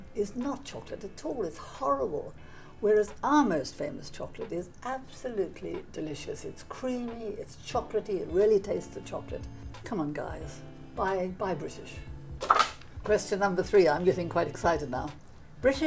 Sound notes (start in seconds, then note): 12.4 placard slapping